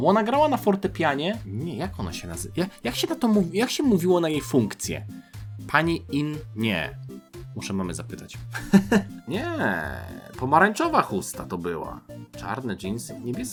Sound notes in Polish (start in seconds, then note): 8.5 śmiech